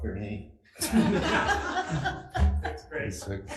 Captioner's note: group laughs